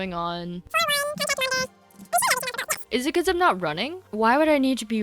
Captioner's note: sped up chatter